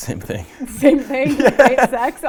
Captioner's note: laughing